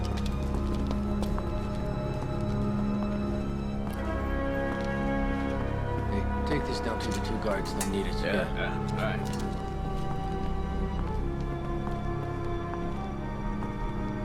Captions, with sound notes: - Hey, take this down to the two guards. They need it. - Yeah, yeah. All right. (footsteps)